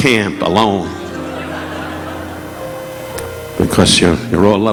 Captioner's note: audience laughing